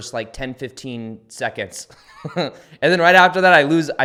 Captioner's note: laughs